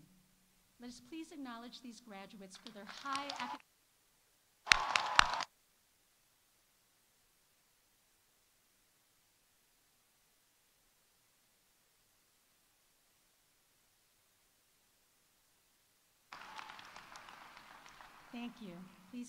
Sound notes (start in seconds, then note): 4.6 audience applauding; 4.6 audience cheering